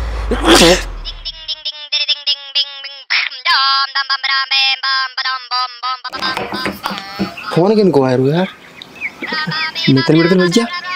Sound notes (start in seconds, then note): 0.3 sneezes; 1.0 phone ringing; 9.3 phone ringing